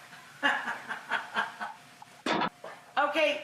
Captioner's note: woman laughing